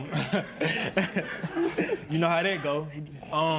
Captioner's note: laughs